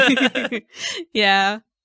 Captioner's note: laughing